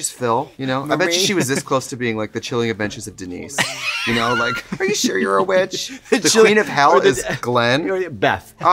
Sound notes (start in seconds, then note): 3.6 laughing